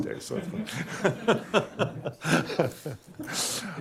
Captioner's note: laughs